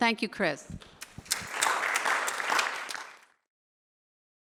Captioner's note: applause